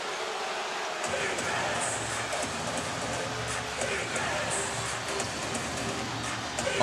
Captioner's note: crowd chanting, "defense"